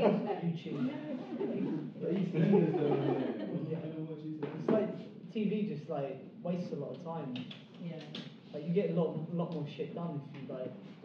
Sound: people laughing

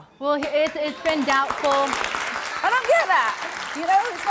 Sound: audience applauding

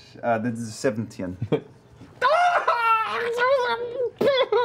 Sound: screams and sobs

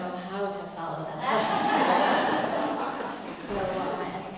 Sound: laugh

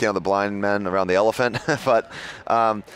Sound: laughs

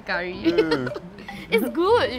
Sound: laughs

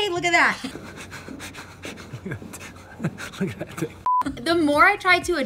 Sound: laughing

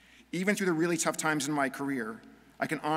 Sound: none

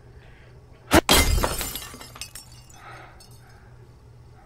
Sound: shattering crash

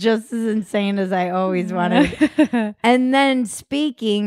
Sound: laughing

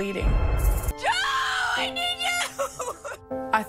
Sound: yelling

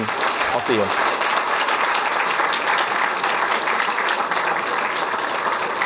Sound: applause

